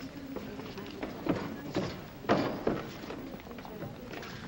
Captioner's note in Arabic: ثرثرة ناعمة; أقدام تضرب الخطوات